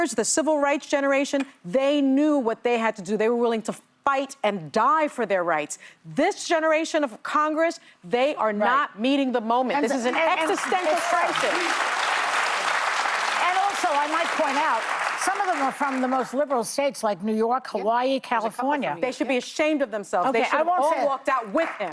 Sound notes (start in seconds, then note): 15.1 applause